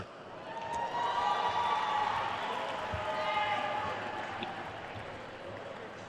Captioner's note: attendees cheering and applauding